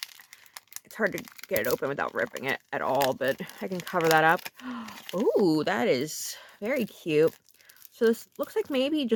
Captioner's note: gasp